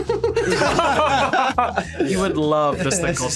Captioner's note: all laughing; laughs